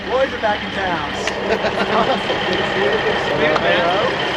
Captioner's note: laughing